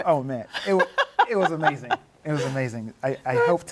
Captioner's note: laughs